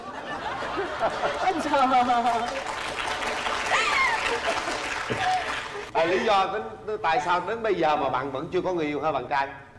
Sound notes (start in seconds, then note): 0.0 laughters; 2.2 claps